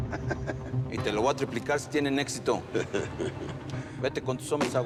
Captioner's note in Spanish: risas